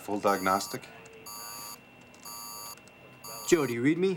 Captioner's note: alarm